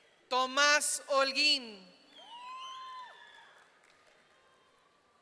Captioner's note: audience cheering